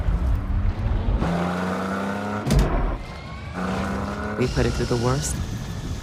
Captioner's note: engine revving